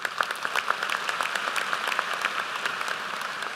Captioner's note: applause